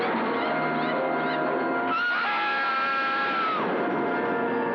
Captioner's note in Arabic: صراخ